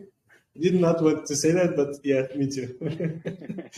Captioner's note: laughing